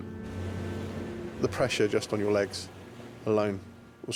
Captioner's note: gentle music; waves crashing